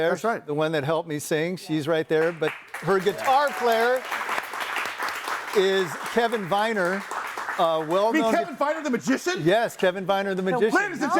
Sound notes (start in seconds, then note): 2.2 audience applauds